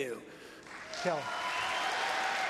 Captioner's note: applause